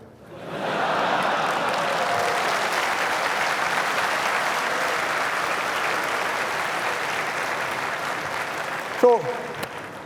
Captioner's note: laughter and applause